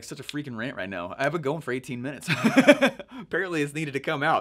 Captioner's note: laughing